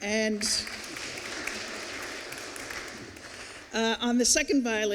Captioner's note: applause